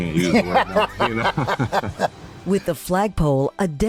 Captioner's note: both laughing